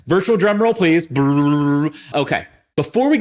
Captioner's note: mimics drums